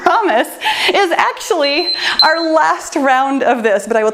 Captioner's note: timer beeps